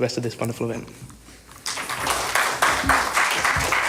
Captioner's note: applause